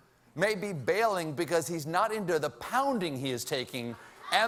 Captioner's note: laughter